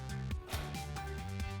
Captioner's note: upbeat music; door clicks shut